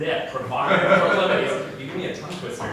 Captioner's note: laughter drowns out speaker